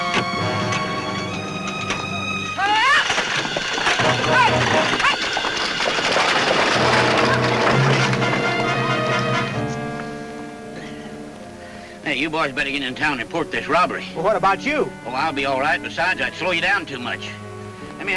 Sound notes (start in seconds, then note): 2.6 Ellen shouts; 4.6 exciting music